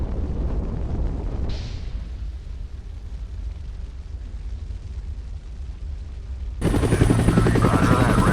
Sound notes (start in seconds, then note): 6.6 murmur of helicopter blades